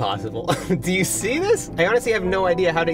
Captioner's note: laughs